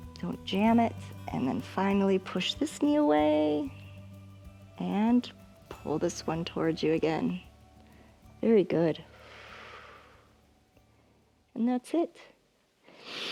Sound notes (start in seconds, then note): 9.0 exhales